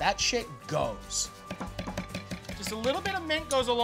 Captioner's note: knife chopping